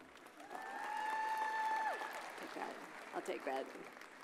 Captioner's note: audience cheers and applauds